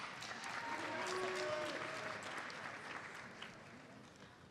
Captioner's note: audience applauds